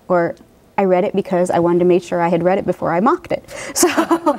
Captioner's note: laughing